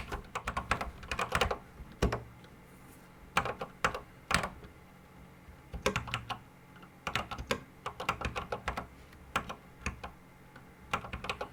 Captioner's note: typing on a Commodore 64 keyboard